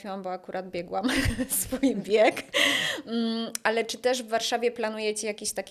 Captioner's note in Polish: wciągnięcie powietrza